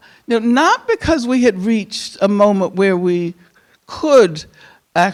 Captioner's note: none